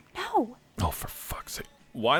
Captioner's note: whispering